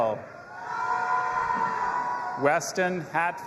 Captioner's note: audience applauding and cheering